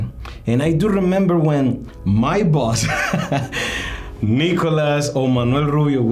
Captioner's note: laughs